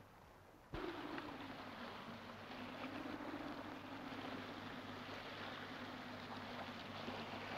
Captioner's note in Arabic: أمواج تتناثر; رياح تعوي